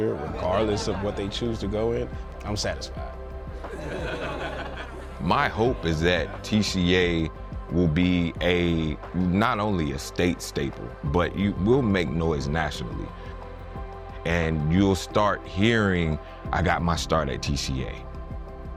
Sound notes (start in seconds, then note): 3.6 easygoing music; 3.6 students laughing